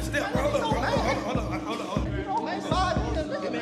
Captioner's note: arguing outside